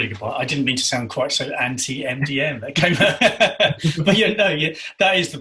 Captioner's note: chuckles